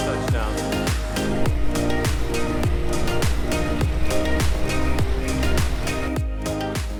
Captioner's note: soft music; plane whizzing